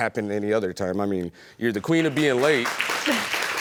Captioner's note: chuckles